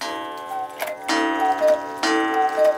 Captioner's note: cuckoo clock sounds